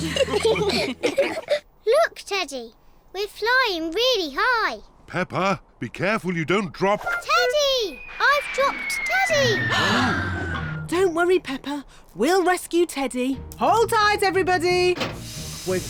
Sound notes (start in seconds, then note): 0.0 all laughing; 9.7 all gasp